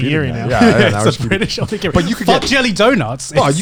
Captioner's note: laughing